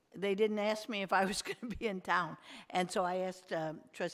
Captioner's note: chuckles